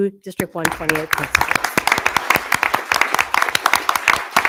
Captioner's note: attendees applauding